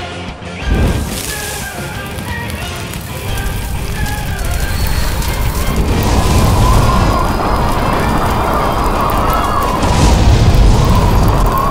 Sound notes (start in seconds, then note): 5.8 boosh; 9.7 boosh